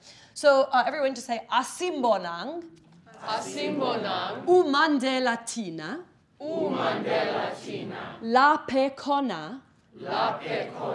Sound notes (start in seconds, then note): 0.0 speaks foreign language; 4.6 speaking in foreign language